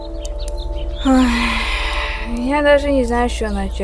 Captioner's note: sighing